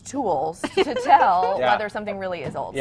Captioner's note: laughs